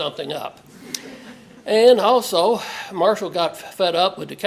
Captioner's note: laugh